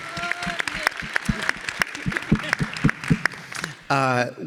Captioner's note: all applauding